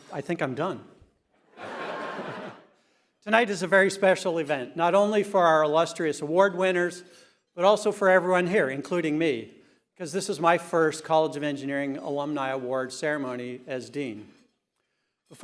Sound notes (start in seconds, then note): 1.4 laughter